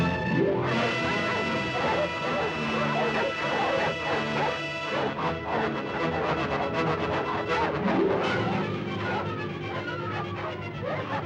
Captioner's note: suspenseful music; dogs barking